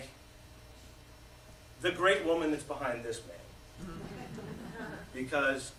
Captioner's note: laughter